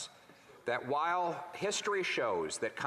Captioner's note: speaking French